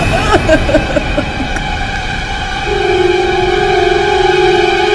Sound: Melissa cries

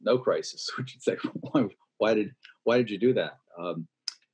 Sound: laughs

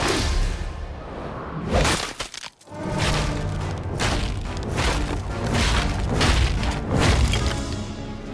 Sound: cracking

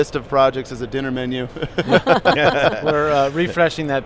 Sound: laughs

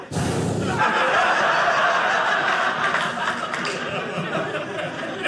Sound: blows; audience laughing

